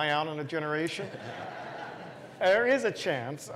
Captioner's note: laugh